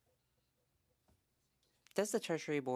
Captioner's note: speaking French